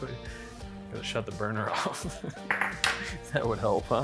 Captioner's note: laughs